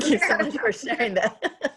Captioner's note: laughs